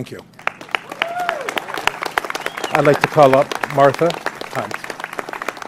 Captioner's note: applause